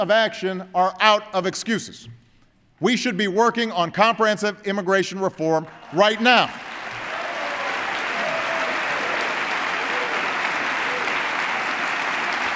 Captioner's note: applause